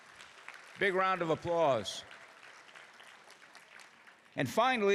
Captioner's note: applause